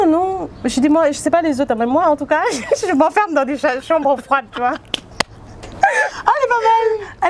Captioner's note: laughs